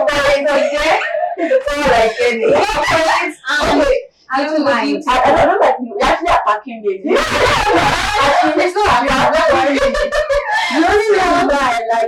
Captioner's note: laughter, Crosstalk